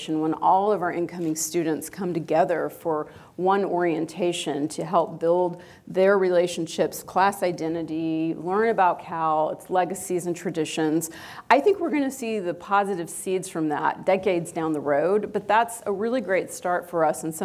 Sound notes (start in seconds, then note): none